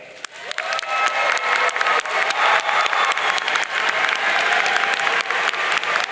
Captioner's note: audience cheering and applauding